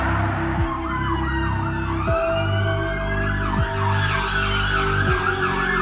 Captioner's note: sirens blaring